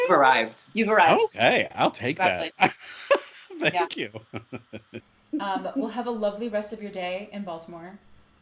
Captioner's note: laughs